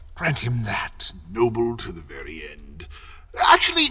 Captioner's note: none